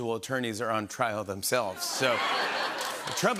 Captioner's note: laughter